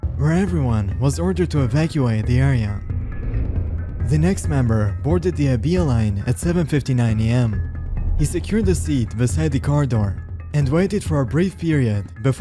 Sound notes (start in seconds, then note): 2.8 echoing thud; 7.5 deep air whoosh